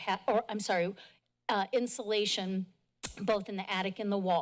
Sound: clicks tongue

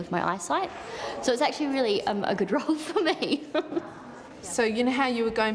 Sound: laughs

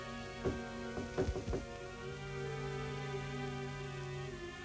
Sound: knocking on door

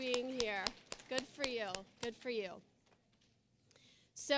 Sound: applause

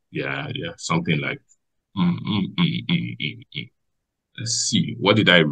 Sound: hums

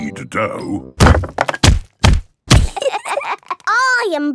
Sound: banging

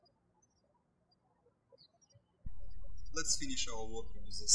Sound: birds chirping

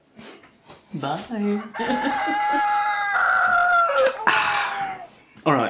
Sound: strangulated rooster crowing

